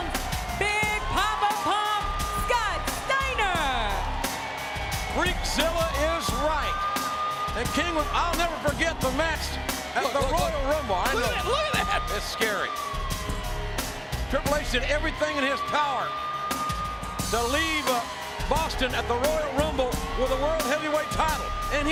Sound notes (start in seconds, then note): 4.1 crowd cheering; 4.1 upbeat music